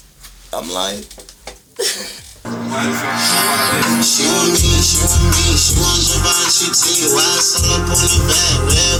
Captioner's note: laughing